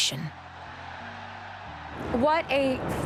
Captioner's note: crowd cheering